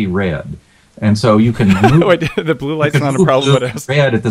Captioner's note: laughs